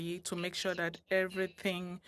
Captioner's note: speaking French